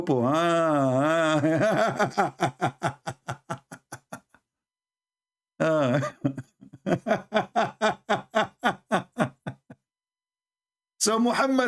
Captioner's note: Ketawa